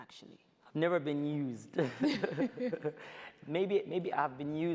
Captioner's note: both laugh